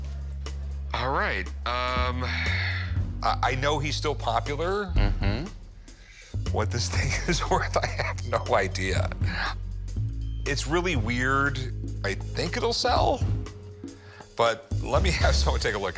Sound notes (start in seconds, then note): 2.1 sighing